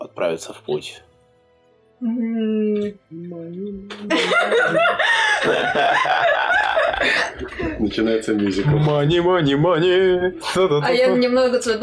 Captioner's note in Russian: Стол угарает, поют